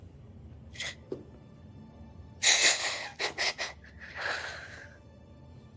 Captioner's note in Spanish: Renata solloza